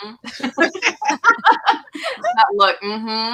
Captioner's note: laughter